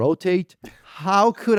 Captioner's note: laughs